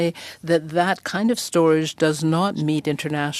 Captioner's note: speaking French